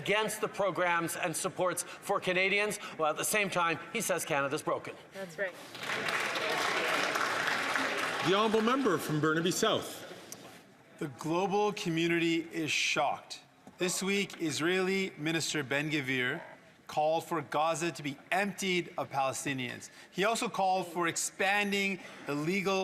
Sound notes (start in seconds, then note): 8.9 some Applause